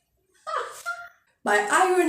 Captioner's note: laughs